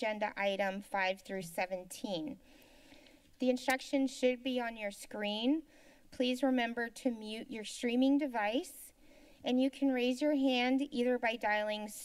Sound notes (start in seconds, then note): 2.4 inhales